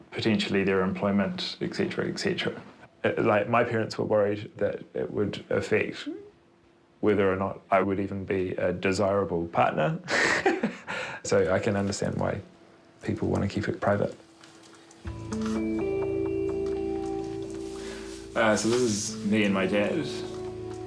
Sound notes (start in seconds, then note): 10.7 laughs; 15.0 pensive guitar music